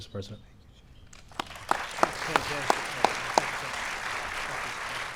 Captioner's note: applause